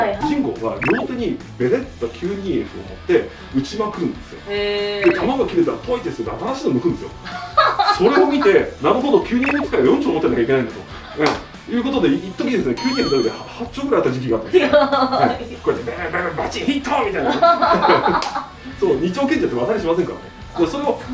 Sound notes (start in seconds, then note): 17.2 hahahahahahaha